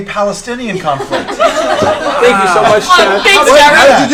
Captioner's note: laughter